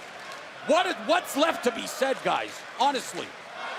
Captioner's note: crowd cheering